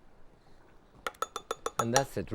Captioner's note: bowl clinking